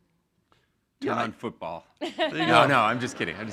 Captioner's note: chuckling